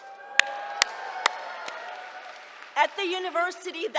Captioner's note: cheering